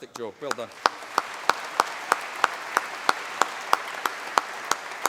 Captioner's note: applause